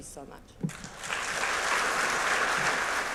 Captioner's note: applause